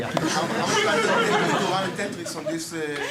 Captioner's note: laughter